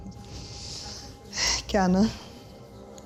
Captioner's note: speaks in German